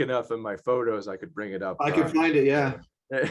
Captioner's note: laugh